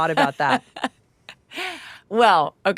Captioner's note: Laura laughing